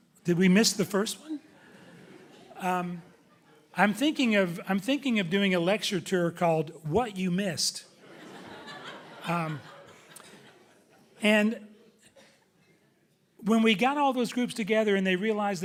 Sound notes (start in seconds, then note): 1.4 audience chuckling; 8.0 audience laughing loudly